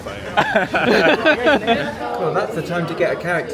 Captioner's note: all laughing